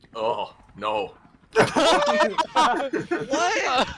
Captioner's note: laughter